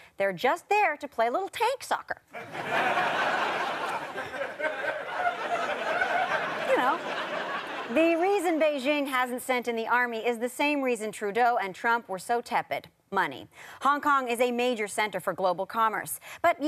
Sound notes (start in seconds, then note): 4.8 audience laughter